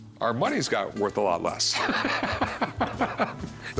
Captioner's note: laughter